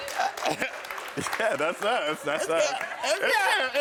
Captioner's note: crowd cheering; laughs